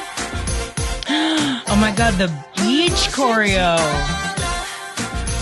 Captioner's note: gasp